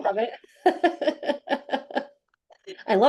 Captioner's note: chuckles